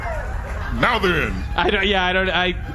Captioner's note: audience whoops